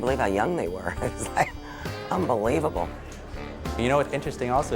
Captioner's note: chuckles